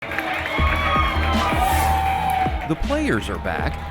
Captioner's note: crowd cheering